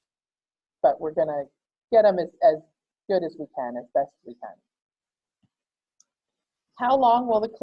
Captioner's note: click